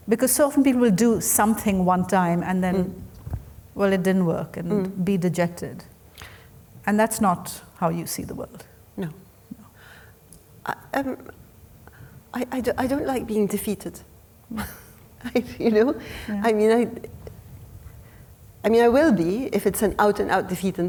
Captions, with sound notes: because so often people do something one time, and then, well, it didn't work, and be dejected. And that's not how you see the world. - No. I don't like being defeated. (chuckles) You know? I mean, I will be, if it's an out and out defeat,